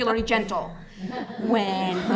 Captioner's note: laughter